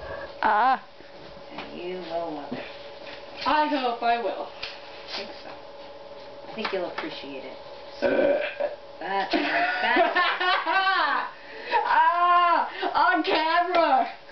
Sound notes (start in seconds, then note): 8.0 belches; 9.3 laughter